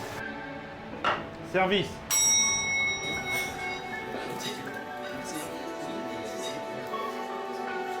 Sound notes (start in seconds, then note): 2.1 sound of a bell signaling the dish is ready